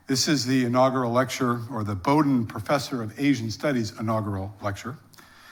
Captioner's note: none